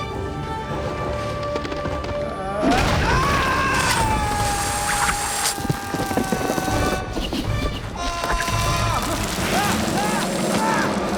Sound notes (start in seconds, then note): 1.4 ice creaks; 2.4 screaming; 4.4 rope whooshing; 9.6 screaming continues